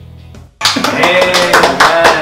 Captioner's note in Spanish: Aplausos